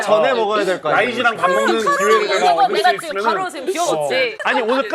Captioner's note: panicking